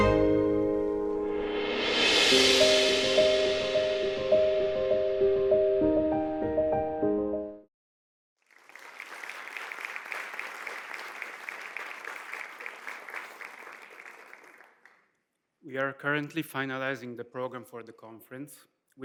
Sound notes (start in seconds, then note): 8.4 audience applauds